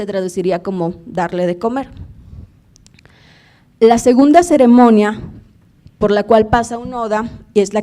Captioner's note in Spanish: habla en lengua indígena